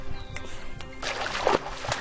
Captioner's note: man whistles